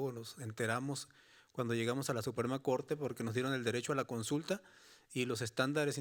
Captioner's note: speaking Spanish continues